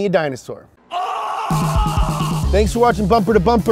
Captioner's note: yelling